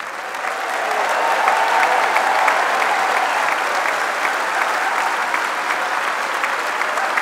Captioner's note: applause